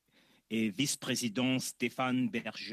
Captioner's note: speaking French